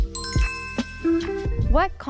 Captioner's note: bell dings; lo-fi music